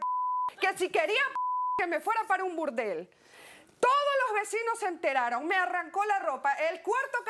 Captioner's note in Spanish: Bip